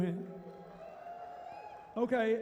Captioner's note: cheering